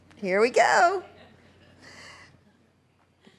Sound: laughter

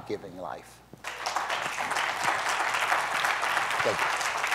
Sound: applause

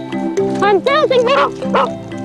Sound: dogs bark

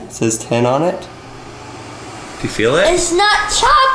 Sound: fan whirs

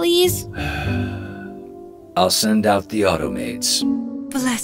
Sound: sighs

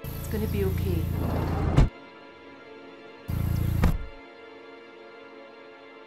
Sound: engine ticks over

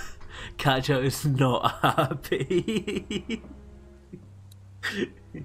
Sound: laughs

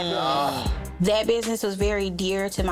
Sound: both exclaiming

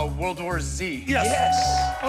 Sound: bell dings

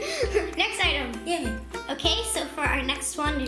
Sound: giggles

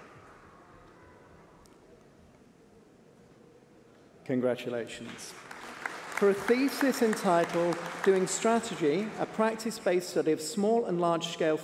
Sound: applause

